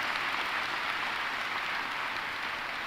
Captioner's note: applause